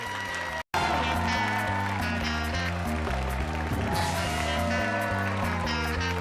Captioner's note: audience cheers; upbeat music